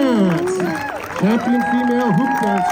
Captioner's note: crowd cheering